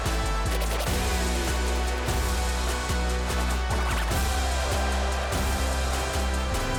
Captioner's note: victorious music continues; crowd continues shouting